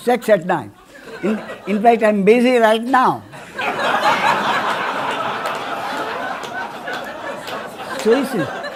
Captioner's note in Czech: smích